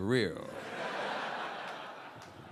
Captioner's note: audience laughing